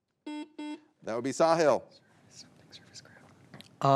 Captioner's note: buzzer beeps